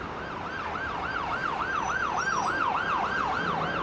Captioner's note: sirens wailing